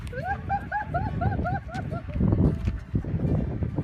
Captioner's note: laughing